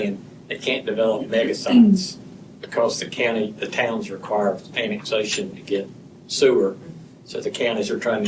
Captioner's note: clears throat